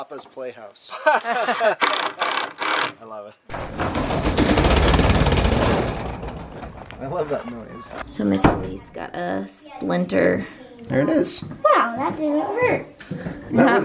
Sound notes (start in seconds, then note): 0.9 people laugh; 3.5 garage door closes